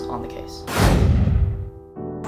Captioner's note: whoosh